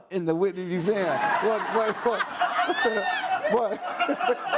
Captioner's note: audience laughs